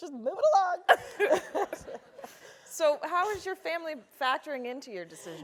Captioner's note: laugh